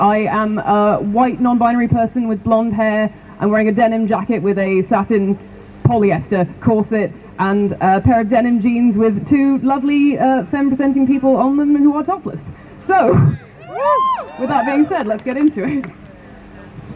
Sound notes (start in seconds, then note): 13.5 crowd cheers